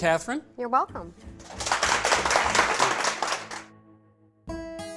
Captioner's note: applause